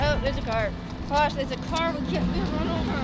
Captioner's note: engine revving